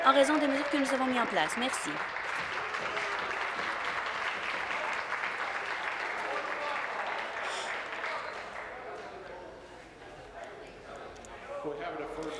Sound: applause

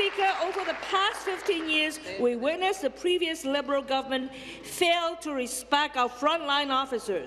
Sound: applause

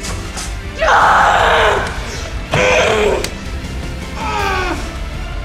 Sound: yelling

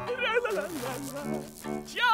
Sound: humming

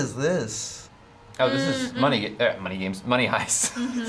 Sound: laughs

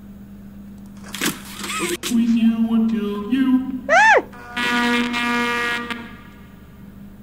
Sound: garbled audio scares

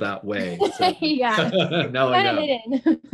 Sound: laughs

